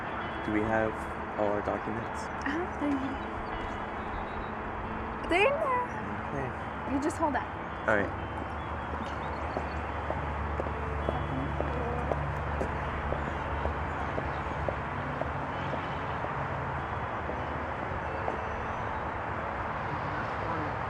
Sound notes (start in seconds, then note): 10.9 soft acoustic music; 11.0 birds chirping